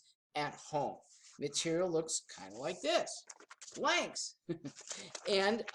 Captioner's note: chuckles